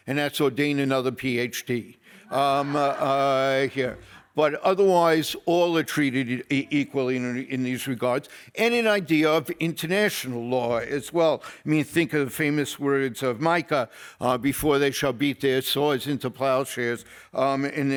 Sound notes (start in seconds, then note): 2.2 audience laughs